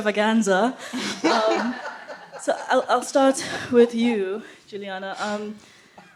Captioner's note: laughter